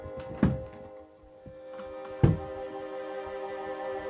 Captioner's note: gun thuds